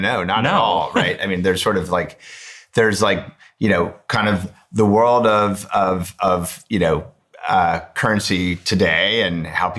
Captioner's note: chuckles